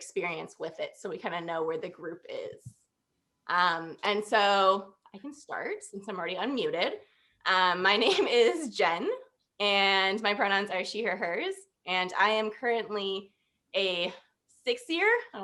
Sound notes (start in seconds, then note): 8.0 laughter